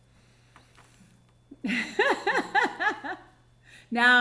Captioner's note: laughing